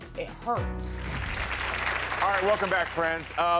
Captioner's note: audience applauds